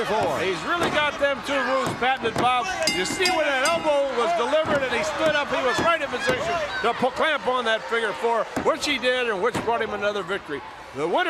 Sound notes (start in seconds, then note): 2.8 bell ringing